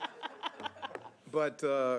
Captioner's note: laughing